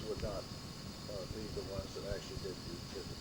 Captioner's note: none